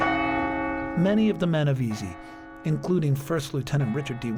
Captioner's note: church bell ringing